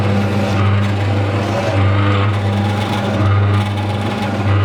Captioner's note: machine whirring